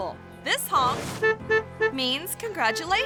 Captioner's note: horn honks